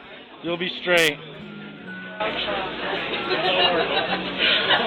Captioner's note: crowd chattering